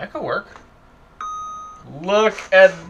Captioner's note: dings